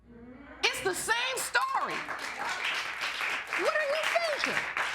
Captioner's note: audience applauding